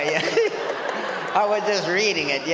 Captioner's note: audience laughs